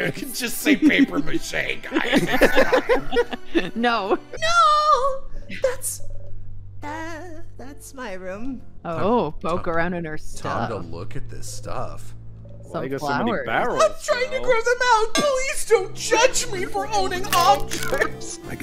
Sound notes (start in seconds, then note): 2.3 laughter